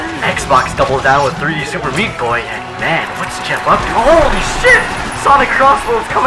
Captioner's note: gunfire